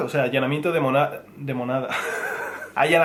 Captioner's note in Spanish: ríe